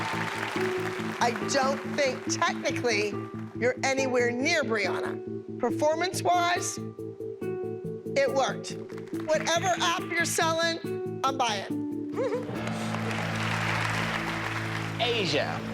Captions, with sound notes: I don't think technically you're anywhere near Brianna. Performance-wise, it worked. Whatever app you're selling, I'm buying. [applause] Asia, yes.